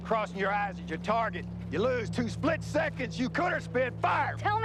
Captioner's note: yelling